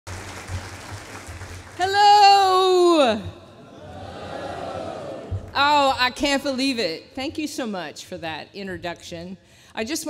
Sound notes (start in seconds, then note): 0.0 applause